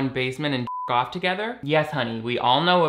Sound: beep

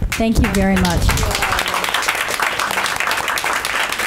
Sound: clapping

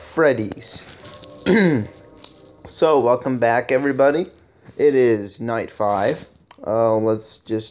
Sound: I cough

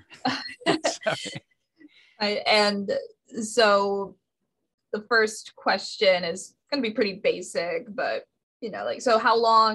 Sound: laughs

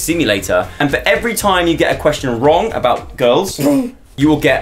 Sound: wheeze

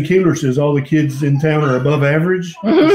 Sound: laughter

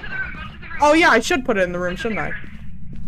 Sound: over Radio; over Radio

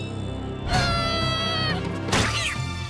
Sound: screaming

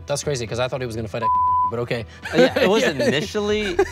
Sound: beep; chuckles

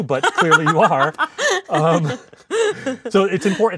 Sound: laughing

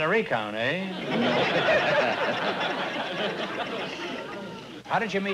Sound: laughter

